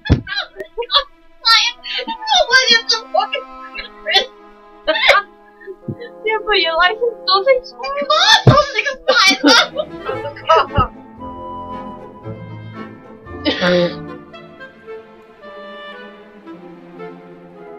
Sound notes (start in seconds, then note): 13.3 horrible Horn